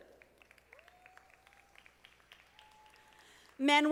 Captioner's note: audience applauding